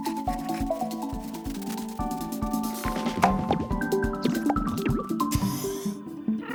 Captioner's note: bright quirky music; trilobites shuffling; door whooshes